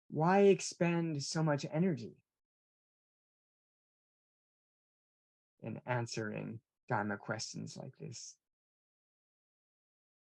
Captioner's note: pause